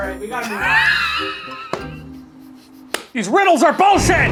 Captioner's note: laughs